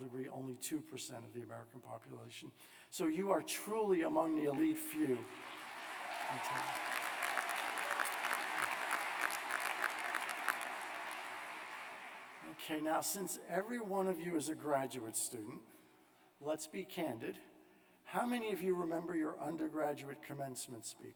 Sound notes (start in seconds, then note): 3.2 applause; 4.9 cheers